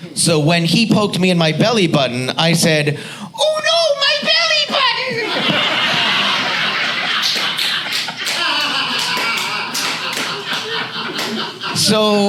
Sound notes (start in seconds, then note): 4.6 audience laughs